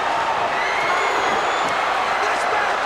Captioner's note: crowd cheers